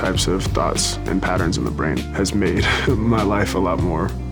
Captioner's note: laughs